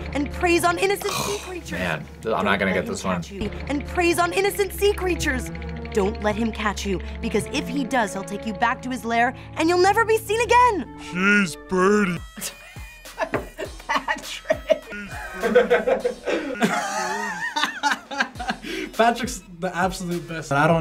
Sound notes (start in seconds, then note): 11.0 laughs